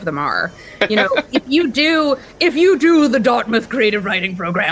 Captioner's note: knowing Laughter